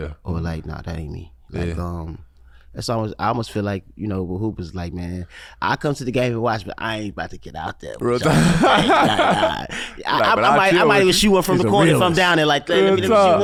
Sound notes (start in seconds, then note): 8.2 laughs